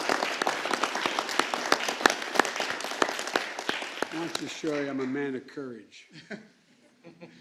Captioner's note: applause